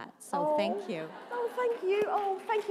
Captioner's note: applause